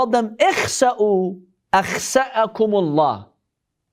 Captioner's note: Arabic